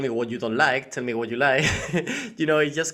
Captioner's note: laughing